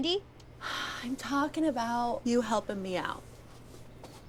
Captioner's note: Wendy sighs